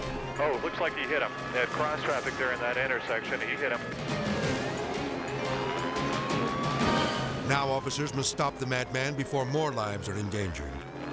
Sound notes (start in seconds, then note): 3.9 intense music; 3.9 siren wailing